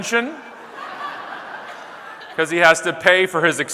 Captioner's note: audience laughing